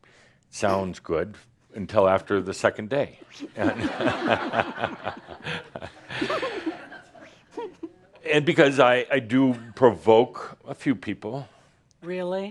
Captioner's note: laughter